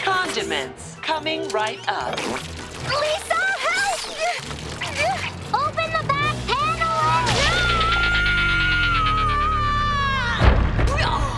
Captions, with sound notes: Condiments, coming right up. Lisa, help! Open the back panel and-- [screams]